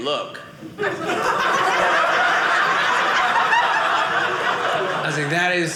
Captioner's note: audience laughing